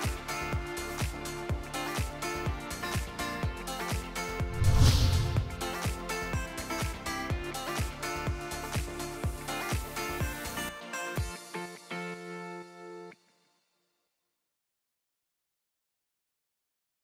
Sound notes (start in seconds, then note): 0.1 upbeat music; 4.4 air whooshing